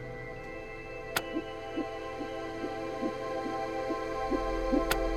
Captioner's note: heart beating on ultrasound